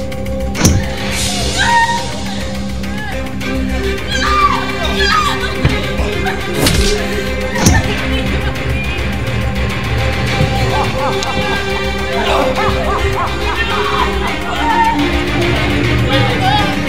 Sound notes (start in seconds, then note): 0.2 clamoring continues; 10.1 soldiers laughing madly